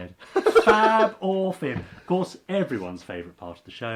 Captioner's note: laughing